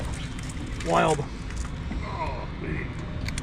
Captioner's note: fish splashing